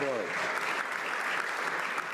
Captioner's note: some Applause